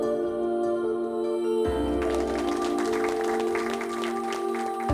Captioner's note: applause